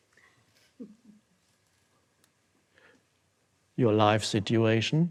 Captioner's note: audience chuckling